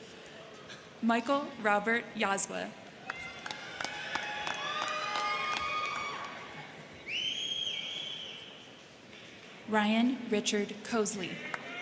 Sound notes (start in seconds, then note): 3.0 crowd clapping; 3.0 crowd cheering; 11.4 crowd cheering; 11.4 crowd clapping